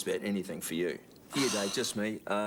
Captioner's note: Jodie sighs